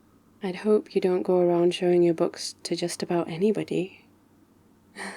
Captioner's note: conspiratorially; laughs